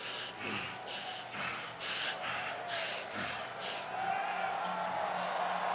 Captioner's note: Strowman breathing hard